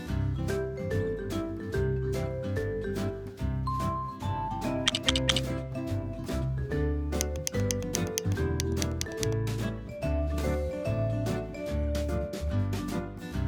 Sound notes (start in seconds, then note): 0.6 happy music; 3.6 happy music continues; 4.8 lego blocks clacking; 10.0 happy music continues